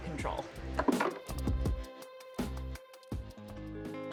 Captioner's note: wires clunking